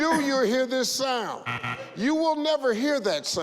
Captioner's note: double buzzer